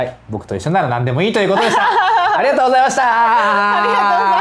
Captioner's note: laughs